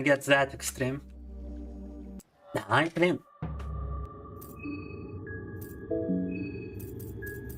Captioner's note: speaking in foreign language